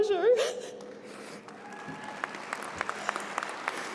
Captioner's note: applause